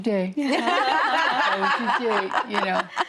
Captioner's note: women laughing